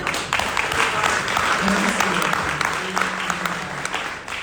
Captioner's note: audience applauding